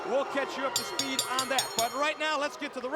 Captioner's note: bell ringing